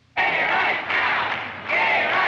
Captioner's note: group Chanting